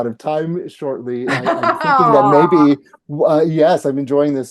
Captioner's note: laughing